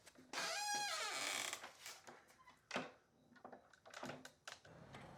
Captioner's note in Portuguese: rangido da porta